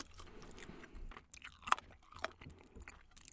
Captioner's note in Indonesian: Seseorang bergerak di luar